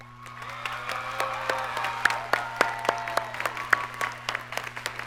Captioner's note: audience cheers and applauds